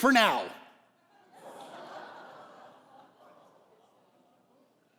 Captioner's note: congregation laughing